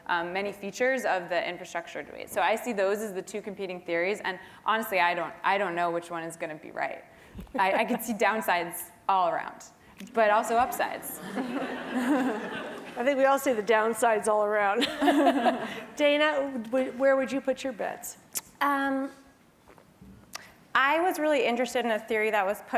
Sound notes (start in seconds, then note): 11.0 laugh; 14.8 laugh